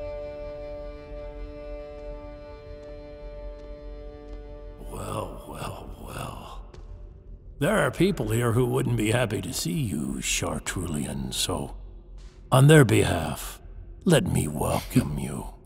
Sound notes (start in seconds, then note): 1.8 approaching footsteps